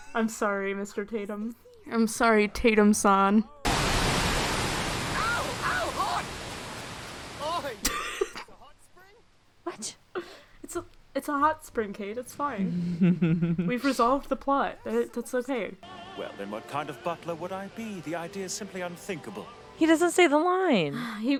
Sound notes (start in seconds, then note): 7.3 laughing; 12.8 chuckling